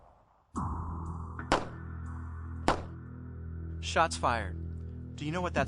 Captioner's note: gun shots firing